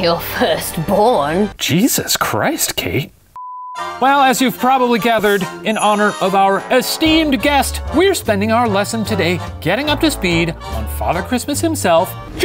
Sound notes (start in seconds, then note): 3.4 beep; 4.3 festive music